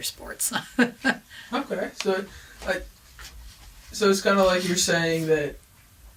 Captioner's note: laughs